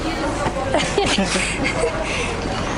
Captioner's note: laughter